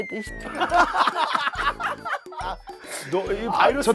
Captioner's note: hahahaha~~